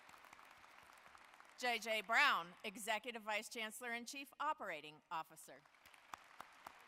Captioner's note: applause